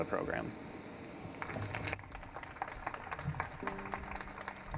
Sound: audience applauding

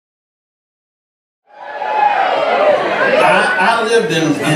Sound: cheering

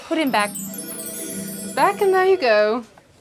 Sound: magical flourish; office phone ringing

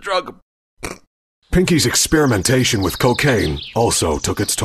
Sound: cough; snort

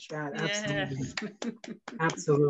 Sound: chuckles; applauds

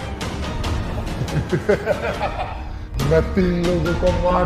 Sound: laughs

